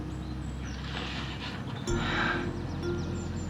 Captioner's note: sighs